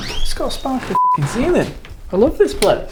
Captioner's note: beep